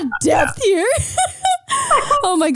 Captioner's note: laughing